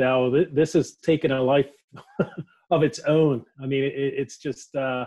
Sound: laughs

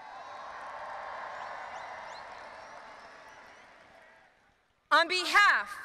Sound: audience applauding and cheering

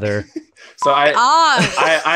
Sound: beep

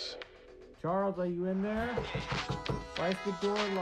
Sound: voice outside the room

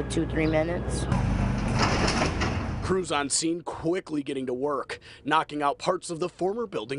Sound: excavating

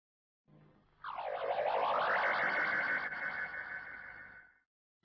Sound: robotic sounds

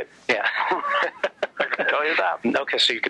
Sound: laughs

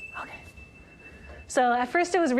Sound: high-pitched tone

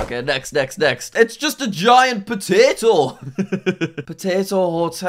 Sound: laughs

